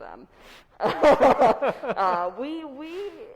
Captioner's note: both laughs